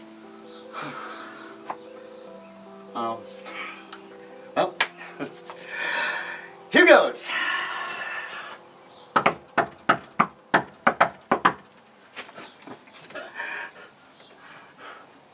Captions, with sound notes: (Lucky sighs) (bright piano music) Well... Here goes. (rhythmic knocking) (birds chirping)